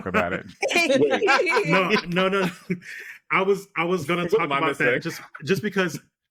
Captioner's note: laughing